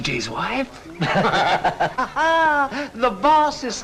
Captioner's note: laughing